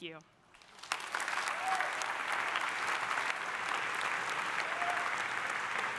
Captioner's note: audience applauding; audience cheering